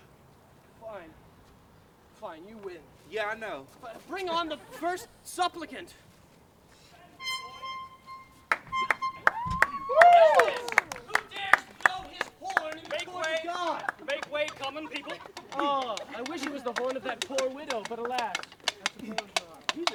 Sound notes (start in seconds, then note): 7.1 audience applause; 7.1 high-pitched air horn